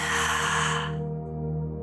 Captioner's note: exhales